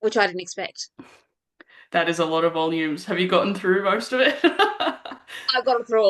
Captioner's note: laughs